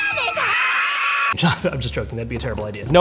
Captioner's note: screaming